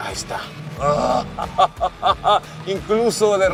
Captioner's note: laughing